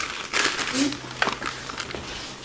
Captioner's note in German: Rascheln